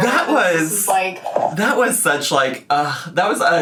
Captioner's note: sighs